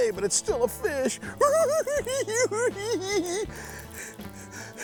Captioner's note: cackles